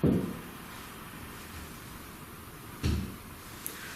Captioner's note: thuds